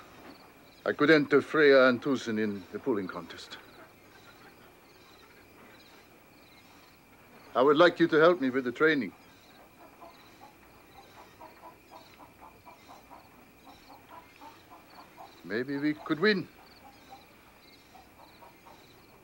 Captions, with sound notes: I could enter Freya and Twoson in the pulling contest. I would like you to help me with the training. (chickens clucking) Maybe we could win.